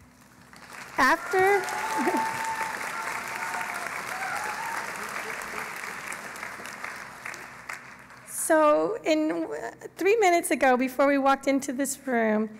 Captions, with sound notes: After-- [ Cheering and Applause ] So three minutes ago before we walked into this room,